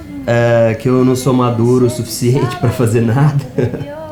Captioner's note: laugh